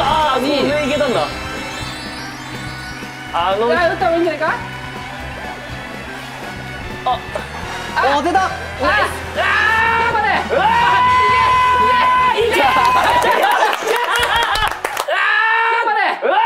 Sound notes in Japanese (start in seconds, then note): 12.5 拍手